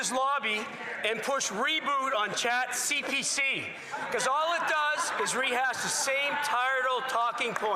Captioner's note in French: voix de l'interprète